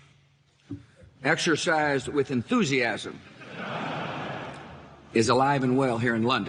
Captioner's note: audience laughing